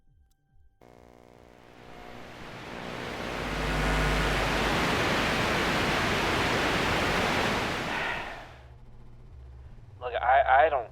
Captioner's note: white noise